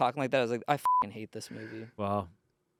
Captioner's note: beep